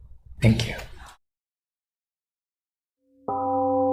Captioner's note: temple gong rings and fades